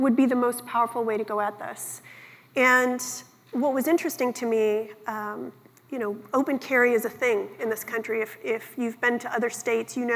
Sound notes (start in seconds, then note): none